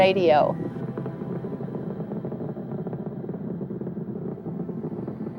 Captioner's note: rocket engine growling